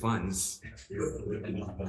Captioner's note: crowd laughs